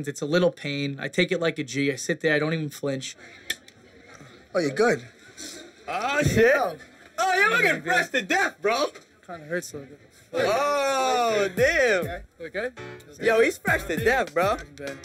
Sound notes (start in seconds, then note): 3.2 click